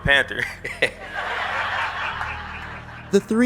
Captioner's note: laughter